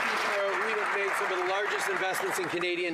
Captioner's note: some Applause